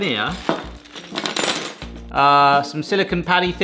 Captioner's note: metal clanging